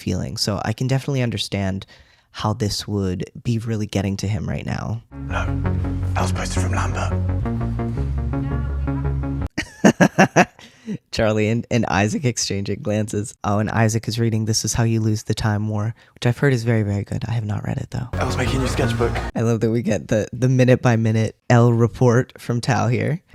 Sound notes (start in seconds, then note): 9.5 laughter